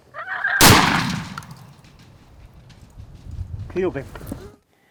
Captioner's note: gun shot